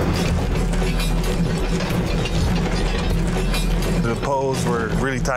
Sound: metal clanging; water splashing

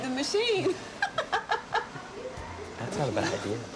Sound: laughs

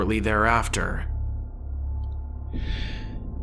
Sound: O5-1 sighs

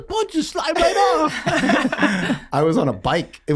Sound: all laughing

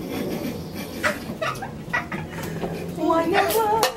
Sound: laughing

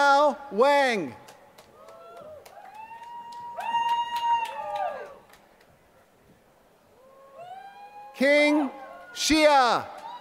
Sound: applause; applause

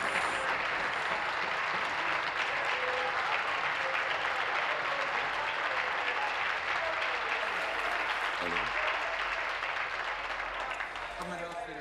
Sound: applause

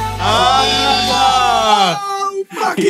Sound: all awing

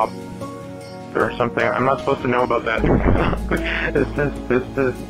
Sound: laughter

